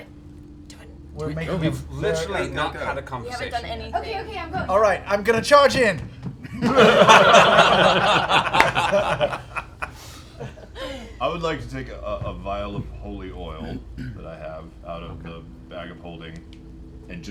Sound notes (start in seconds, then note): 6.3 laughter